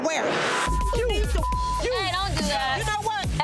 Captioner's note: beep